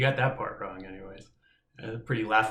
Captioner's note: laughs